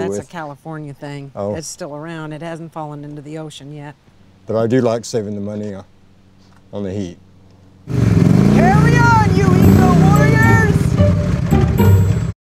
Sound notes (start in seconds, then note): 7.8 engine running